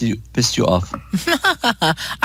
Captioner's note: laughter